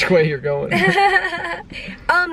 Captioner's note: chuckling